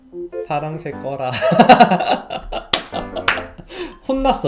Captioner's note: laughs